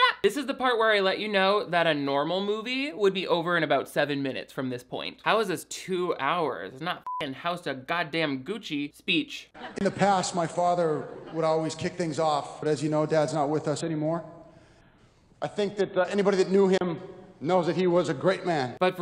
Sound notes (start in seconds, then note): 7.0 beep